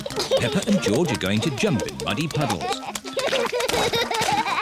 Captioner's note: both giggling